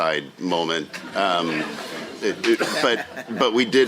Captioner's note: laughter